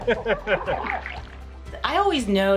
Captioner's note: laughing